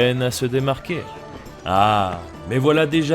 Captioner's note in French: Aah